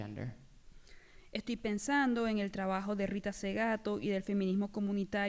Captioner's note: speaking spanish